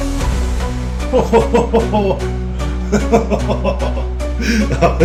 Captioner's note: laughing